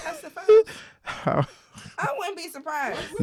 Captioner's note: laughing